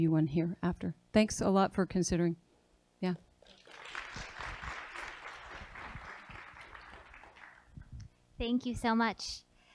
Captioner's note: applause